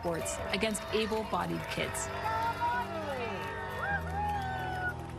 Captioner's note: cheering